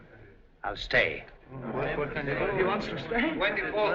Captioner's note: chattering